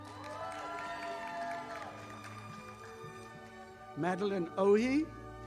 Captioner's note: audience applauding